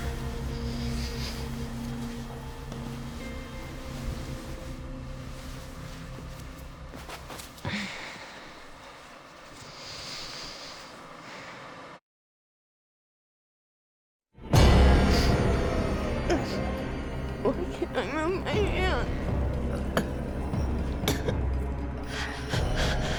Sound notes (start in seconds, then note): 0.2 sleeping bag rustles; 7.5 Claire sighs; 14.4 tense music; 20.4 Claire gasping